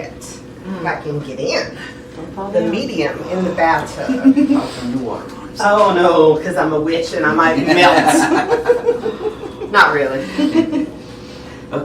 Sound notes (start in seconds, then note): 3.3 guest laughing; 7.3 laughs